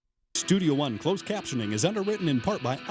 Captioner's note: voiceover